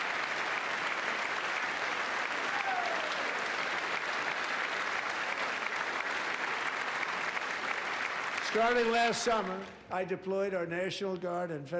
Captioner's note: applause